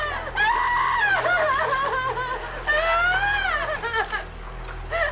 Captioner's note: Emma sobbing